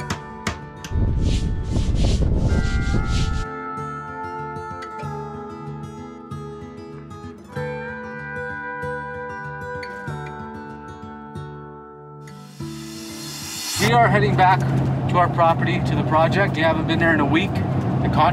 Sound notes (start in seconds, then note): 0.4 hammer thudding; 0.9 wind whooshes; 1.0 broom rustles